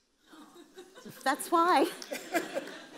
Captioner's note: audience laughs